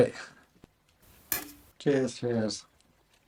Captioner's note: cans clink